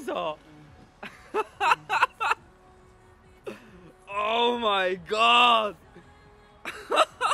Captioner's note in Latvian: Smiekli